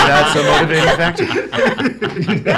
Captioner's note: laughs